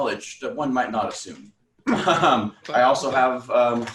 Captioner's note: laughs